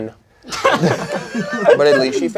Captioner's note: crowd laughing